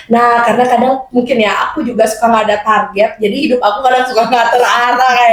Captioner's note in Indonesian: tertawa